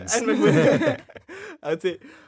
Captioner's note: all laughing